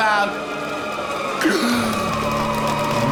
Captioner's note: gasps